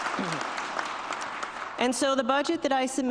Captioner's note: applause